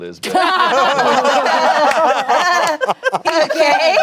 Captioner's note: everyone laughing